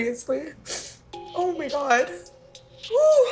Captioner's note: crying